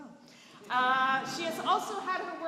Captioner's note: laughter